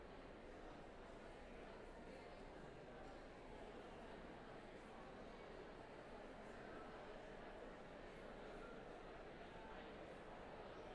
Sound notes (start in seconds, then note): none